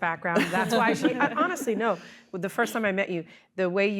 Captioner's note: laughter